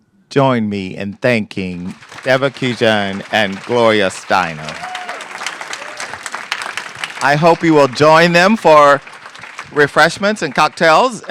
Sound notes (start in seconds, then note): 5.1 applause